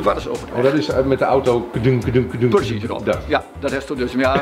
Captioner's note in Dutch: kadung, kadung